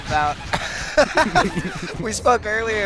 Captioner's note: laughter